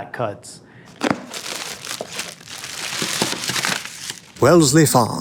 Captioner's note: paper rustling; plastic crinkling